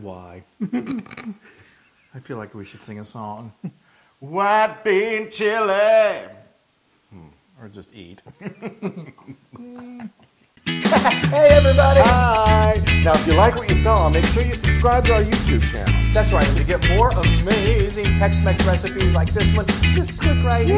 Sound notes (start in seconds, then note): 7.6 laugh